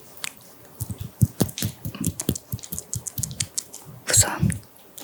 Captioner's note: tiny claps